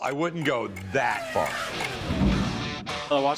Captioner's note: race car zooming